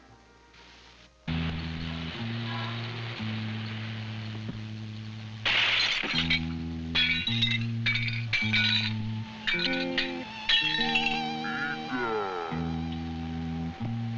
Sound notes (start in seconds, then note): 0.0 gentle instrumental music; 5.4 glass shattering